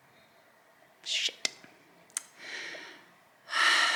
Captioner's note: sighs